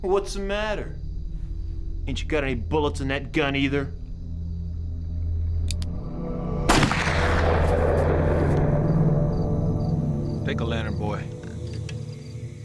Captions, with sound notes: What's the matter? Ain’t you got any bullets in that gun, either? (gunshot) Take the lantern, boy.